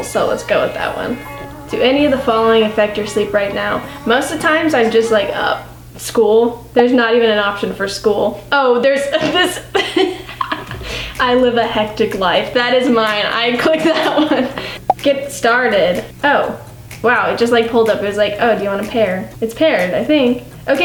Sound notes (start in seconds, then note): 9.2 laughs